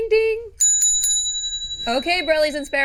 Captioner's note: ringing bell